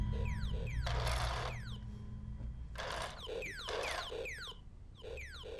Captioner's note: toy laser gun firing